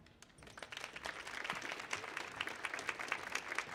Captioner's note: audience applauds